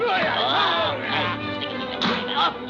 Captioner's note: Popeye groaning; vizier muttering; blow landing